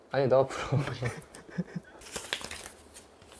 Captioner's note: haha